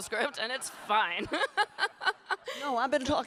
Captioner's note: laughing